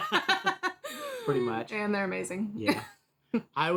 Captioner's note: laughing